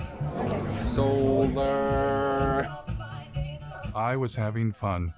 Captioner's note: laughing